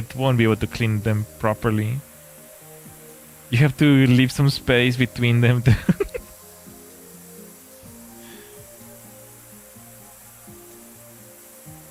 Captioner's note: laughter